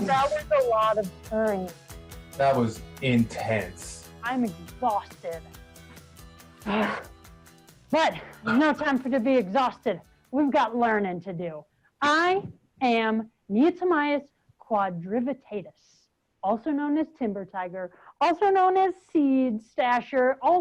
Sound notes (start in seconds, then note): 12.3 speaking in a foreign language